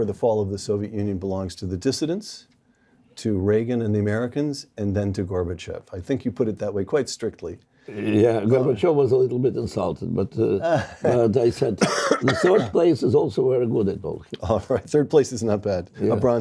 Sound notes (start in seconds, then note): 10.5 laugh